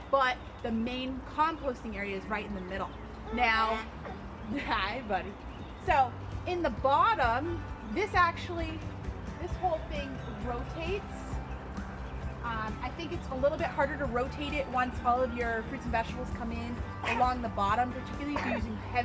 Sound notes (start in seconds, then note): 3.6 baby gurgles